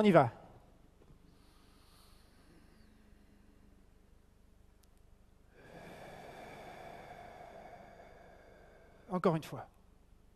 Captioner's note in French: longue respiration collective